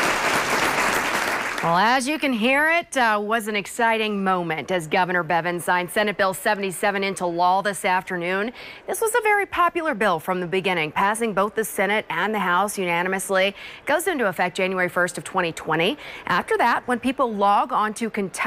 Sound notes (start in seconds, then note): 2.9 crowd cheering